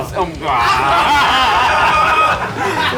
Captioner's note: laughs